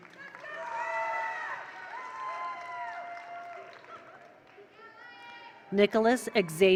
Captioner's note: attendees applaud; attendees cheer